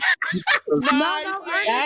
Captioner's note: laughter